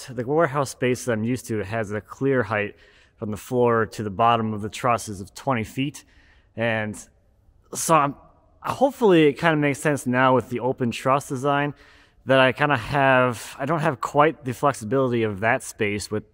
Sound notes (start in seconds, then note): none